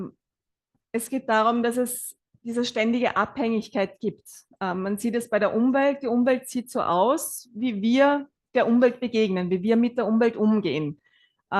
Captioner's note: German live translation